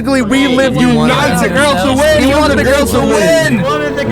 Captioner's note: shouting